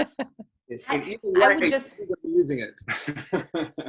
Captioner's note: laughing; audio cutting